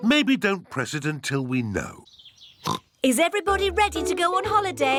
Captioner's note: oinks